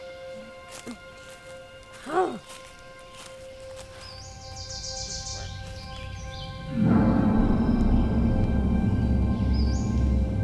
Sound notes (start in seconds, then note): 1.9 Janet grumbles; 6.7 ominous music